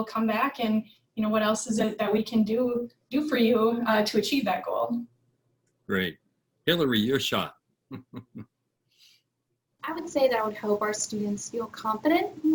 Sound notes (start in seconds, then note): 7.9 laughs